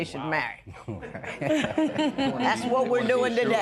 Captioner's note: laughter